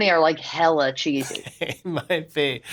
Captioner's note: laughter